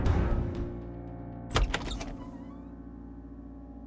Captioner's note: door creaks open